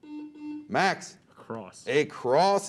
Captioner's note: beep